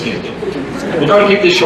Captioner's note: laughter